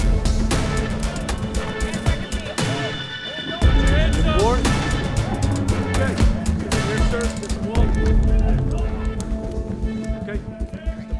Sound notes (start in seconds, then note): 0.2 dramatic music; 4.1 police shouting